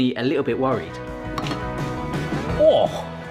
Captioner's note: upbeat music; lid clatters